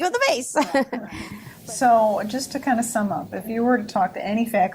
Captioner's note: laughs